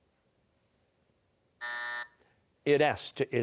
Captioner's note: buzzer